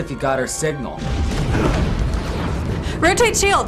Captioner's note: explosion